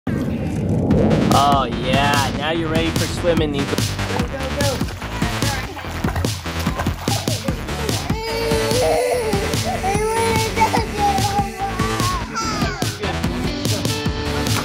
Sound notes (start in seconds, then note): 1.2 upbeat rock music; 7.8 kid cries in the background; 14.3 water splashes